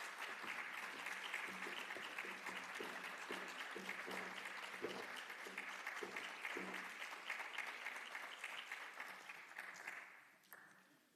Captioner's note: applause